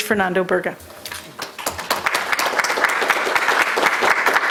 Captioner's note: applause